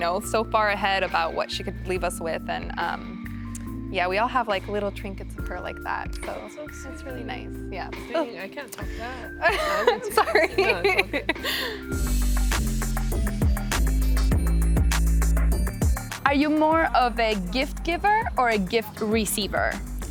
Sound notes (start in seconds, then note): 9.4 laughs; 12.1 christmas music playing